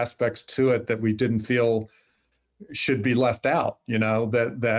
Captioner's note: laughs